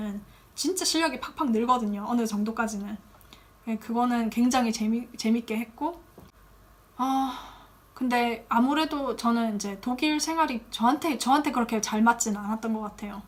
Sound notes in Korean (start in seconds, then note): 7.0 한숨